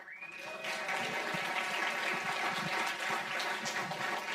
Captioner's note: audience applauding